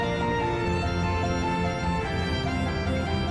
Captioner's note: none